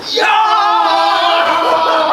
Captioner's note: yelling